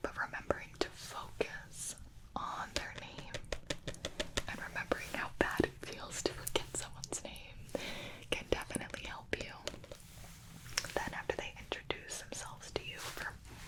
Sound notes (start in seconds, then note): 2.7 tapping